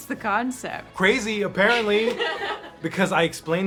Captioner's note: Sarah and Margaret laugh